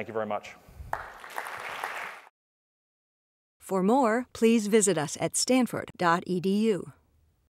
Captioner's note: applause